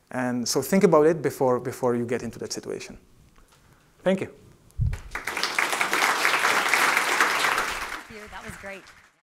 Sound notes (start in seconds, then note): 4.9 applause